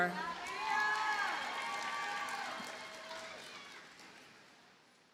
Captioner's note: audience cheers and applauds